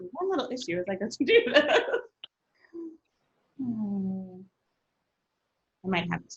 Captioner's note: laughs